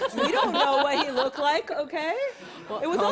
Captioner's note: laughs